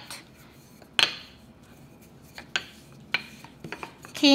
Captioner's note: rolling pin tapping sound